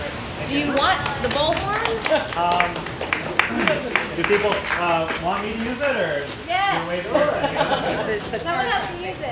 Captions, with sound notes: Do you want the bullhorn? [Applause] >>Do people want me to use it? >>Yes!